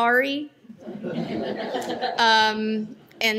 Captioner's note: laughter